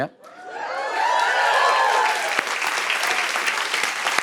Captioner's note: cheers and applause